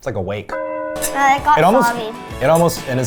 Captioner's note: church bell tolls